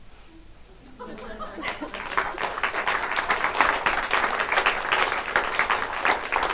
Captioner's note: audience laughs and applauds